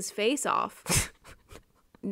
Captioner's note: adorable giggle